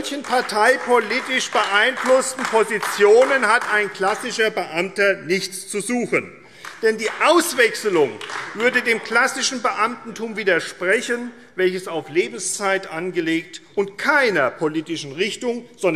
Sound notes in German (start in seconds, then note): 6.5 Beifall AfD